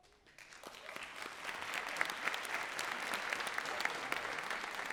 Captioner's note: audience clapping